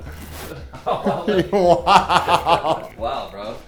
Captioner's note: laughs